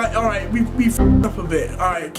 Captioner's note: error chiming